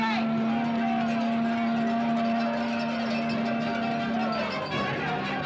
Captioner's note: horn blowing; suspenseful music